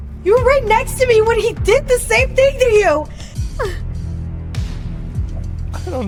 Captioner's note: sobs